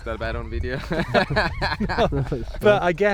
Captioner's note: laughing